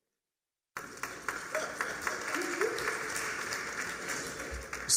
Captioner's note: applause